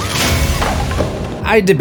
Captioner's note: screams